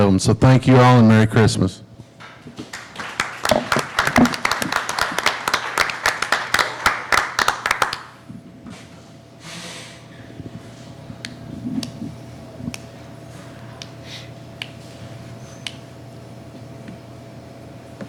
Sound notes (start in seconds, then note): 2.2 clapping